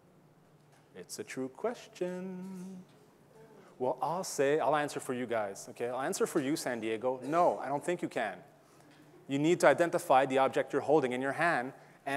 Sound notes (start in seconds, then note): 0.8 in a sing-song voice